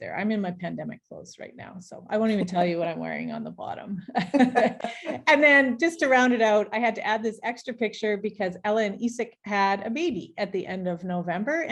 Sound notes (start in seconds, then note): 4.1 both laughing